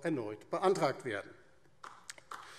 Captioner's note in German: Beifall DIE LINKE